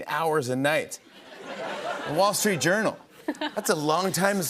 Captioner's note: laughter